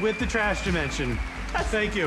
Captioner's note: audience cheers, applauds